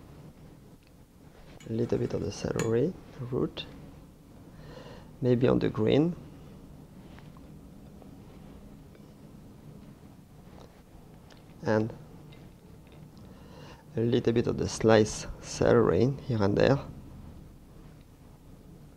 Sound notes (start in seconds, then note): none